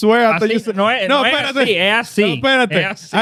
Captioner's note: speaking In Foreign Language